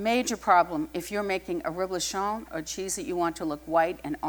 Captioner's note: french